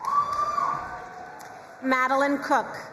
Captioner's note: crowd cheering and applauding